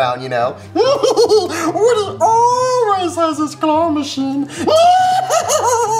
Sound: laughs; hysterically laughing

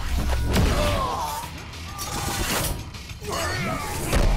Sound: grunting

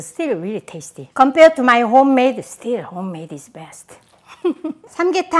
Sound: laughs

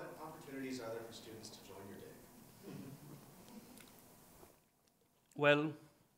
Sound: attendees laugh

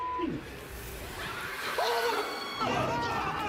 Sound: woman screams; screaming and shouting

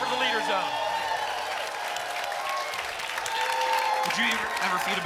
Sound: applause and cheering

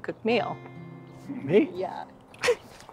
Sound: laughs

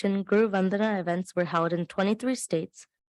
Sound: foreign language

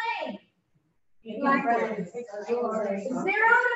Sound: audience speaking

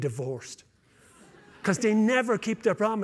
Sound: laughter

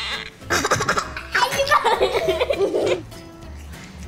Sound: laughing

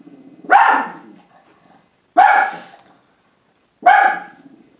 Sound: dog barks

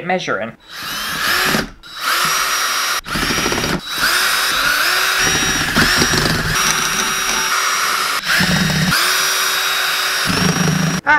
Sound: drill Sounds

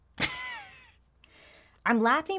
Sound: laughs

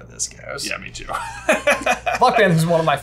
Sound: laughs

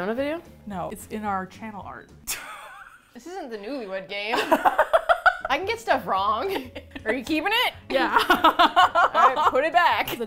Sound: laughs; indignantly; both laugh

